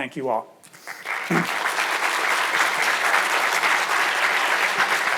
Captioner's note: audience applauds